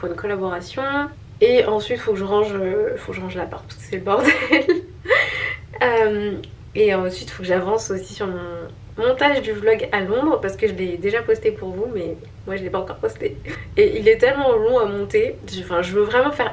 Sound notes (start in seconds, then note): 4.2 laughs